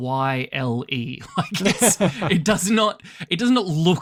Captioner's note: laughs